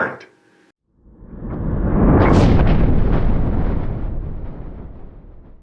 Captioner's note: rumbling